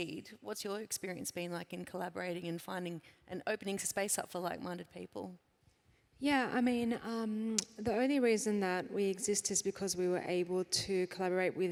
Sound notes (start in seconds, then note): none